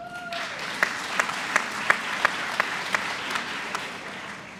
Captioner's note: applause